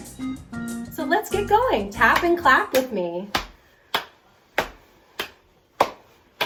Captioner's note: clapping